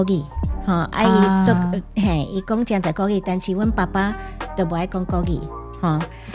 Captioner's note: Taiwanese